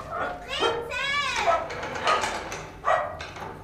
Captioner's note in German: Hund bellt